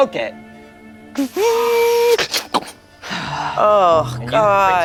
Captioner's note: mimics printer